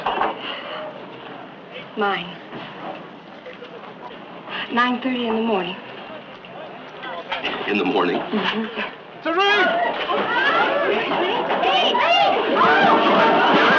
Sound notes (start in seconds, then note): 9.2 patrons yell